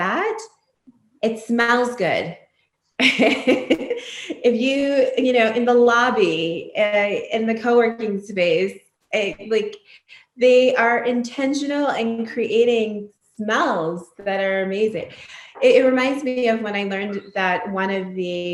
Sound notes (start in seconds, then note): 3.0 laughs